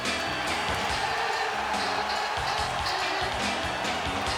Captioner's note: crowd cheers